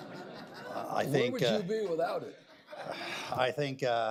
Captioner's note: laughter; laughter